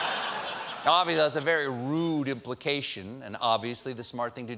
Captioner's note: laughter